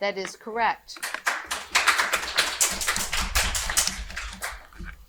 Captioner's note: audience applauding